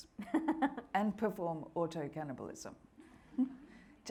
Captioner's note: laughing